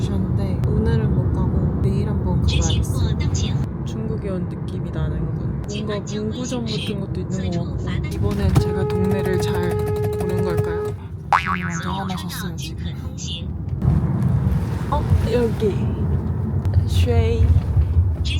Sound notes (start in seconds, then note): 8.1 endless honking